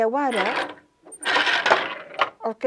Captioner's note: noise of shuttle moving